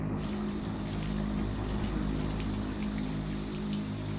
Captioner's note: water running